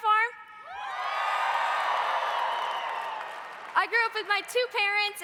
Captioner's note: audience cheering